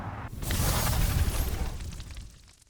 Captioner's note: logo sizzles